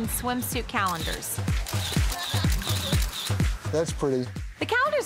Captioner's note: camera snaps